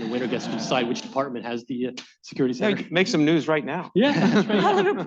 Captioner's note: laughter